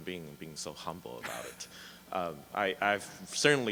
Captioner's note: chuckles